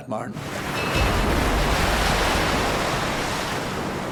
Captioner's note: waves crash